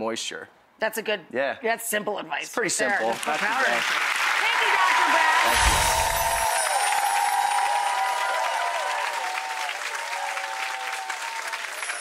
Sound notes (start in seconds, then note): 3.4 audience applauds; 4.3 audience cheers; 5.5 bells chime